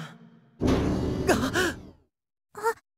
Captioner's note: gasp